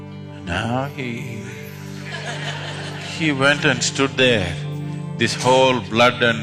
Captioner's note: laughter